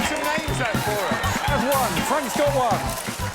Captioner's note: applause